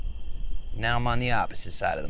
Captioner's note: crickets chirping